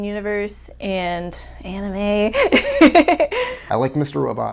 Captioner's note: laughing